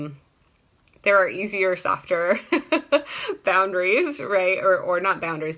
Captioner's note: laughs